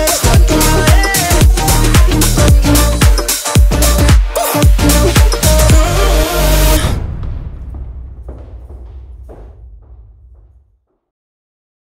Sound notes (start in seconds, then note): 2.2 upbeat music playing; 8.1 speakers walking